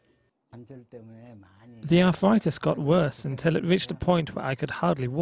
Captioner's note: Korean